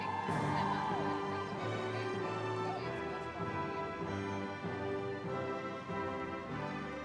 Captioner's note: audience clapping and cheering; triumphant music